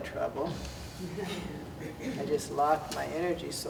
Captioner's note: people chuckling